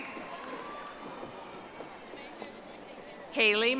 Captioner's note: audience applauding